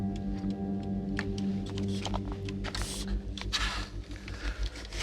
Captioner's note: light clicking